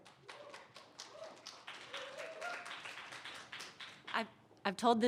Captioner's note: audience applauding